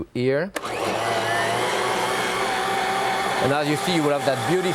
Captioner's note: blender whirring